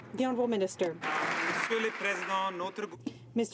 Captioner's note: some Applause